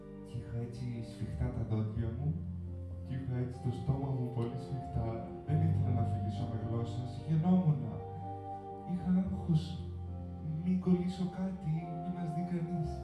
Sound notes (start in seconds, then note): 8.0 stiff speech